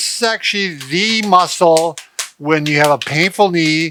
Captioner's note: hands rhythmically slapping thighs